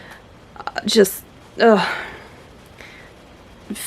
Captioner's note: stammers